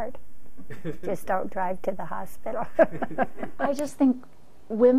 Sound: laughs

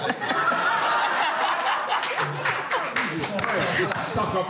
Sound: laughter

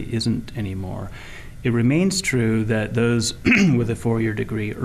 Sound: clearing throat

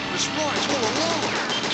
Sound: bullets Zinging

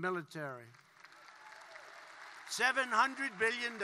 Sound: applause

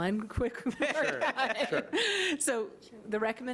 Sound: all laughing

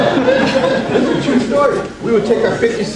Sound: audience laughs

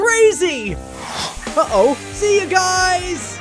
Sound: air whooshing

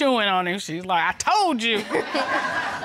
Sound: chuckles

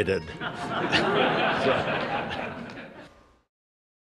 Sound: laughter

